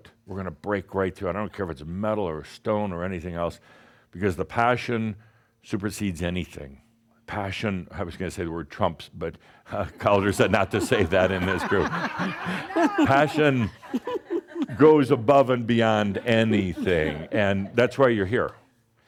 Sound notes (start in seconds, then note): 13.1 some chuckles